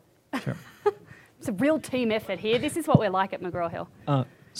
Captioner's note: chuckling